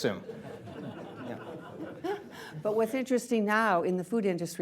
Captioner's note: laughter